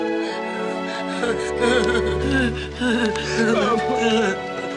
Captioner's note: heavy sobbing